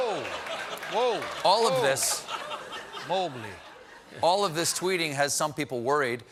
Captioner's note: laughter